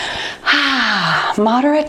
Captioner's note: sighs